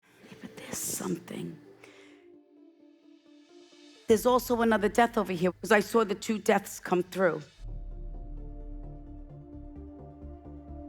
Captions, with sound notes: - (throat clearing) There's something, there's also another death over here 'cause I saw the two deaths come through. (dramatic music)